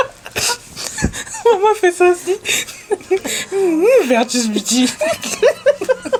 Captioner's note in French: rires